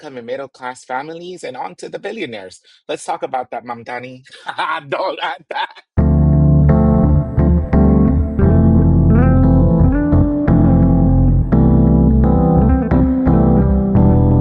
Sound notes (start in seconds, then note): 4.2 laughs; 6.0 techno music